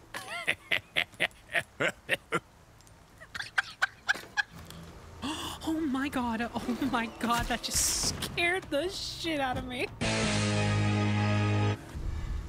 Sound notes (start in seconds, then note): 3.2 regular Laughter; 5.2 gasp